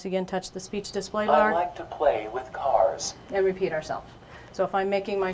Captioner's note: device speaking: I like to play with cars